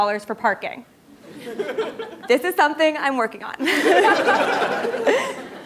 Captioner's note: laugh